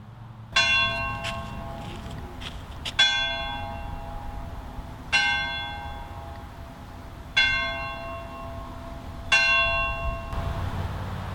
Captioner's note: tower bell rings